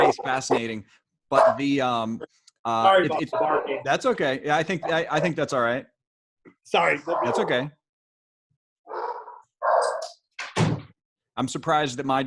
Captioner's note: distant barking